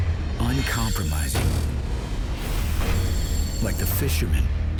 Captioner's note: voiceover